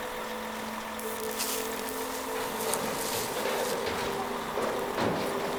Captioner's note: electric animal prod buzzes